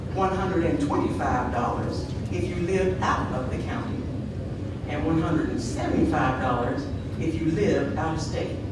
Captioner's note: none